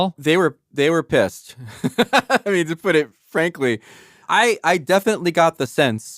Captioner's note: laughs